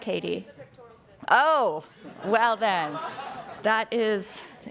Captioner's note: audience laughing